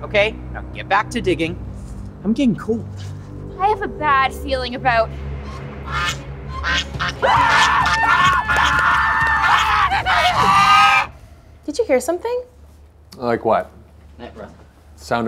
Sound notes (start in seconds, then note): 5.4 goose honking; 6.6 Herbert and Haley scream